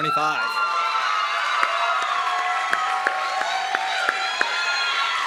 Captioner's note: audience clapping and cheering